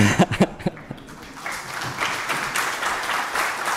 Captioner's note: applause